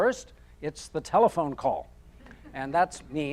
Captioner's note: audience chuckling